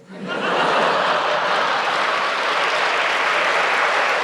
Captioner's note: laughter; applause